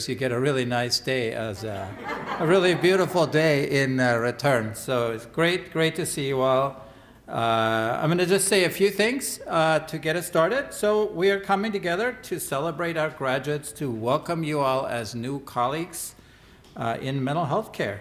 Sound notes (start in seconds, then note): 1.6 laughter